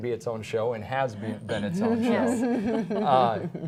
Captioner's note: laughter